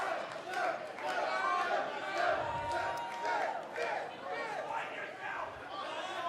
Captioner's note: fans chanting